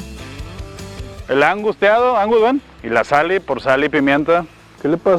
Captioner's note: in Spanish